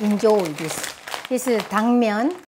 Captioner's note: plastic bag rustling